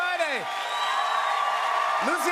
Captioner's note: cheers and applause